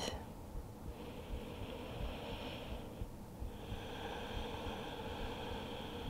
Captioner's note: inhaling and exhaling deeply